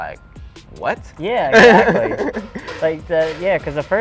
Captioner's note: laughs